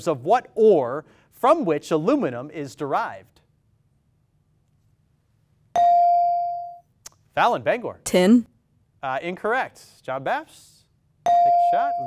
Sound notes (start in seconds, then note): 5.7 ding; 11.2 ding